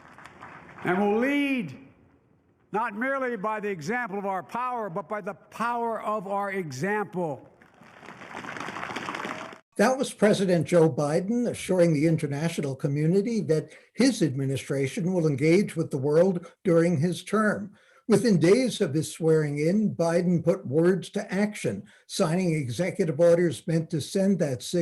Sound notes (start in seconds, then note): 7.8 applause